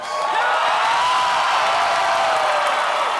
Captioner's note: applause